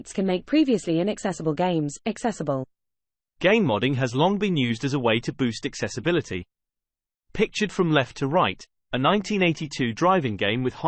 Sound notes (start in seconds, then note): 3.1 british male voice